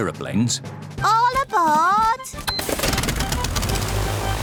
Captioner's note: engines whirring